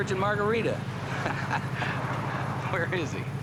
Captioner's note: both chuckle